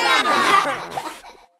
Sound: kids Laughter

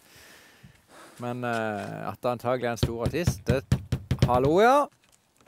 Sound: knocks on the door

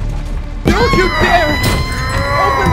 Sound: shouting

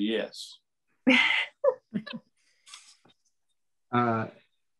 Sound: members chuckle

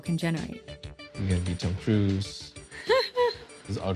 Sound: laughs

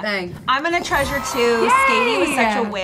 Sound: children cheering and twinkling

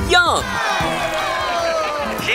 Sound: cheering

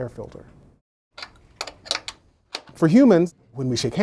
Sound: mechanical clanks

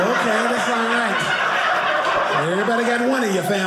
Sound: audience laughing

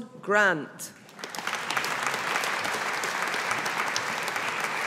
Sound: audience applauding

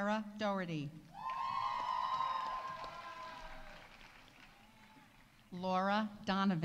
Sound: audience cheering; audience applauding

